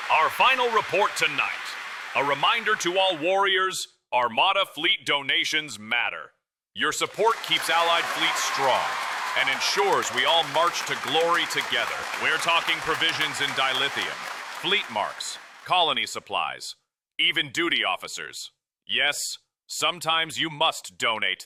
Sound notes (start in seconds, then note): 11.5 audience applause